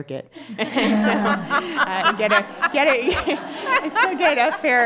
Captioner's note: laughter